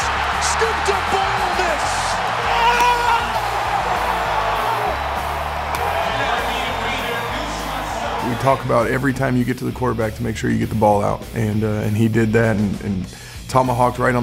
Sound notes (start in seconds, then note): 2.0 cheering